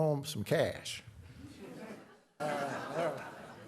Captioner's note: laughter